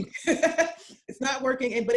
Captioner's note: laughing